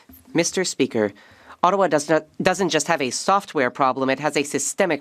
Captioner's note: speaking French